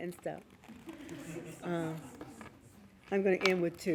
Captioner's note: laughing